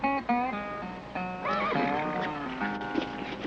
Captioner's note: horse neighing